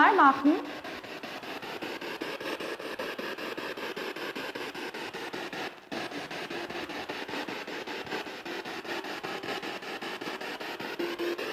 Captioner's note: noise of the spiritbox in the background